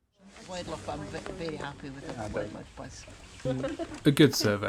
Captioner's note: background chatter and laughter fades in